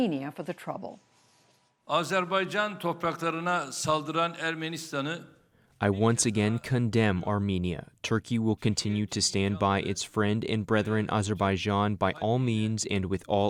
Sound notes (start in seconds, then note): 4.4 through translator